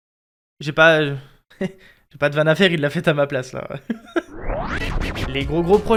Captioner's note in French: Rire